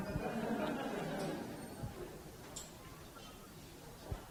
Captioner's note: audience laughs